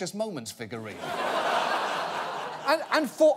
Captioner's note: audience laughing